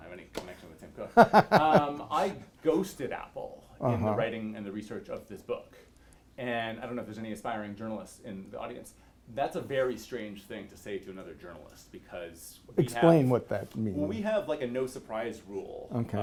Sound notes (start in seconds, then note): 1.1 laughs